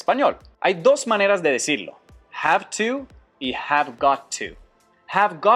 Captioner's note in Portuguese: Inglês